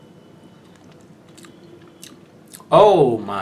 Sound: mild smacking sounds

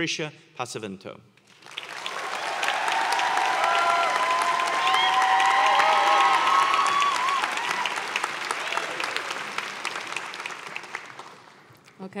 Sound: applause

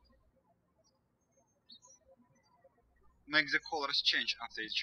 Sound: birds chirping

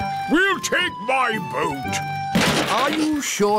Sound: clattering

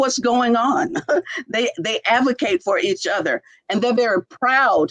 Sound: laughter

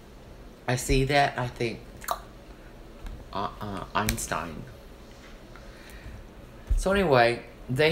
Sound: clicks tongue

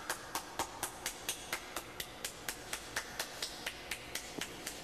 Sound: off-camera clapping

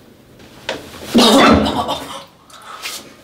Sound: throws up more

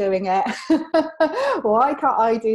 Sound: laughs

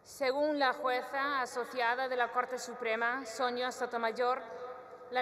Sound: speaks in Spanish

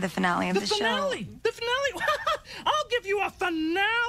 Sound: chuckles

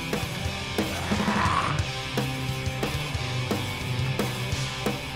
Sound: pop punk music; zombie yelling

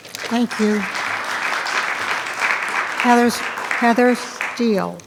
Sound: attendees clapping

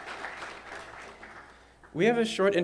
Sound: applause

